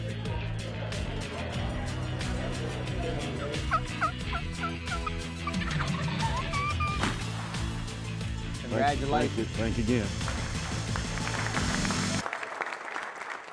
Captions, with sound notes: (chattering) (turkey call) (shot fires) - Congratulations. - Thank you, thanks again. (applauding)